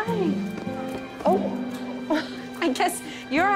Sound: laughs

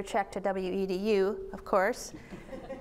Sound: audience laughs

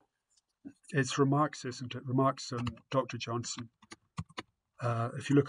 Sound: sounds of typing

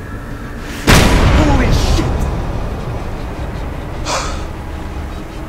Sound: slamming

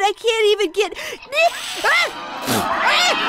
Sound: hissing; sneezing

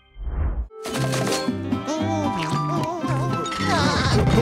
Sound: humming; laughing

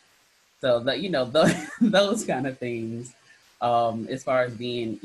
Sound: chuckles

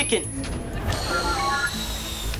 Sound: beeping

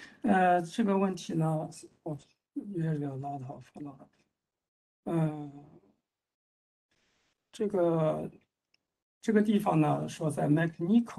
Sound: speaks in Mandarin

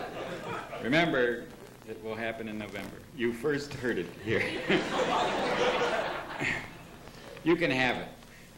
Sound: laughter

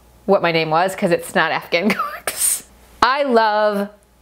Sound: chuckles

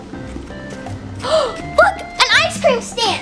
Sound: girl gasps

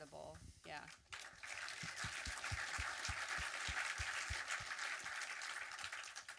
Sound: audience clapping

